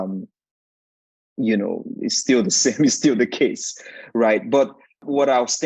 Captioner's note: chuckling